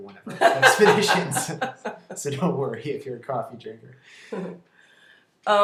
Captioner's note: laughter